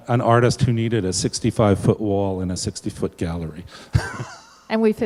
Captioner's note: laughs